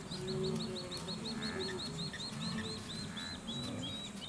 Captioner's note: animals calling